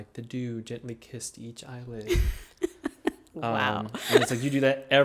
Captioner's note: laughing